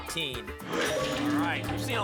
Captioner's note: lock sound